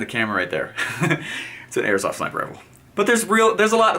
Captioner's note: chuckles